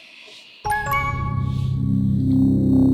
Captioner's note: computer dings; suspenseful music